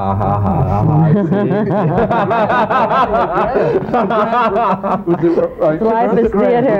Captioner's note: comments drowned out by laughter